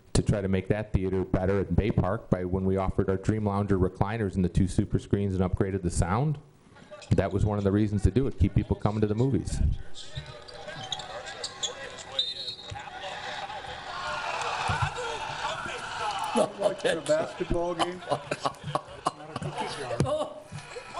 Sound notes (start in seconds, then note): 11.1 basketball game plays in the background; 18.5 laughing